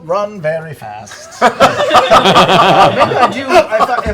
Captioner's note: laughter